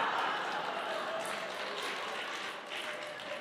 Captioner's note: applause